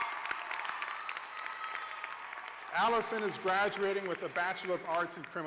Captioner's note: cheers; cheers and applause